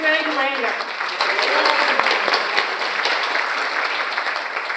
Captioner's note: audience applauds